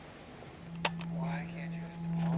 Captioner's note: button clicks